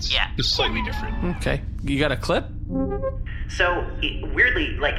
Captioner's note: clip start up beeps